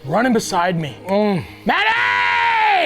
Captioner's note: Matty grunts happily